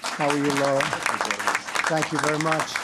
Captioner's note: applause